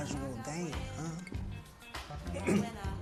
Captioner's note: clears throat